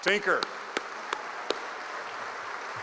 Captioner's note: applause